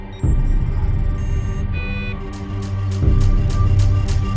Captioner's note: machines beeping